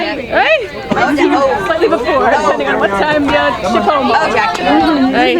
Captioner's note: people chattering